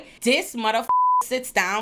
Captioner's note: beep